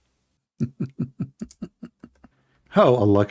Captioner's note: laughing